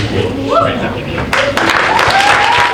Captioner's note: audience member cheering